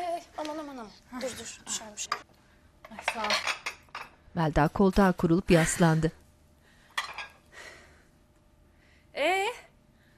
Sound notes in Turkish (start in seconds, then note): 6.6 Nefes sesi